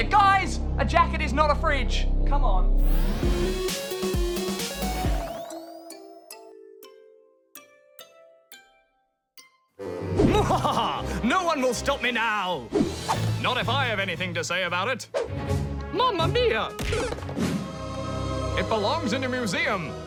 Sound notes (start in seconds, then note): 10.2 laughs evilly